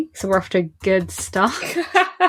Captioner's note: laughs